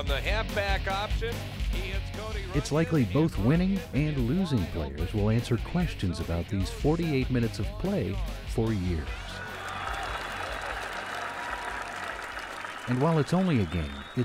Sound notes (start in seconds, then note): 9.2 applause